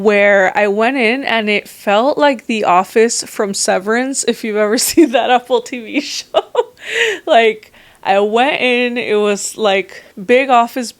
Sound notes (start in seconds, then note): 6.2 laughs